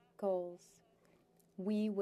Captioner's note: speaking French